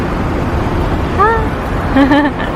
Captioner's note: laughs